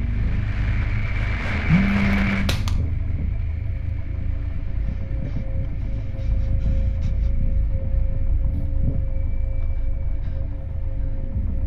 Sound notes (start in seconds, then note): 1.9 loud thud; 1.9 phone vibrates